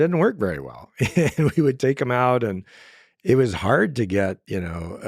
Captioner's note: laughs